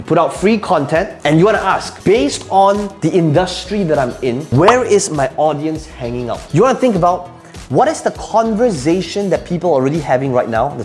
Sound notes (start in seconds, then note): 4.5 bubble popping